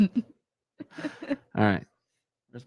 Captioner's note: laughing